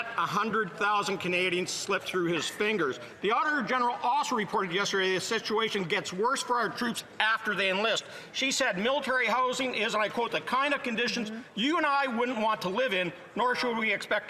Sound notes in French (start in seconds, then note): 2.6 voix de l'interprète